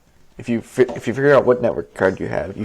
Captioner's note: none